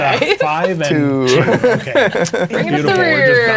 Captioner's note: laughing